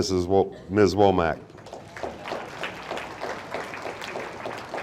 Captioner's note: audience applauding